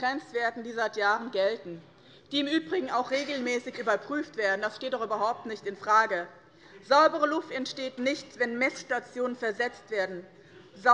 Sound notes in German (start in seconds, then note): none